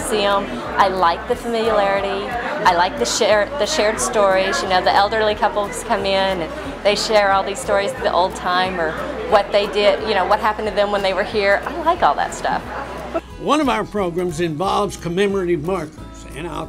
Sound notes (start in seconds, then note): none